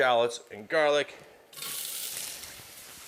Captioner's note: pan sizzling